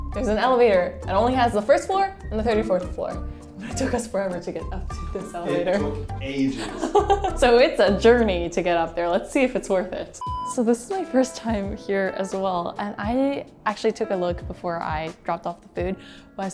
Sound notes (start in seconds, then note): 6.3 laughs